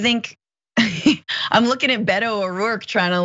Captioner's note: laugh